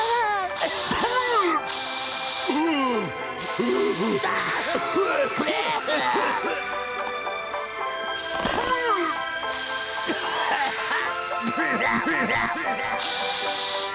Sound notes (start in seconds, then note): 0.0 coughing, spraying; 8.2 spraying; 9.9 coughing; 12.9 spraying